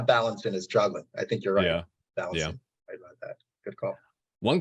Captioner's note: audio distortion